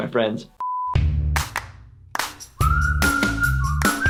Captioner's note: television beeping; upbeat music; upbeat whistling